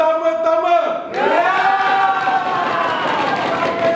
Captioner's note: animals cheer